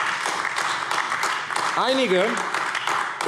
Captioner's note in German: Beifall AfD